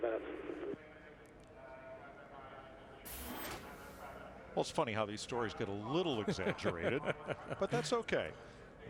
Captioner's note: radio